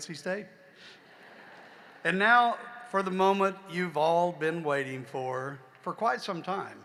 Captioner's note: laughter